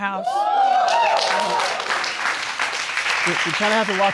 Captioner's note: audience cheering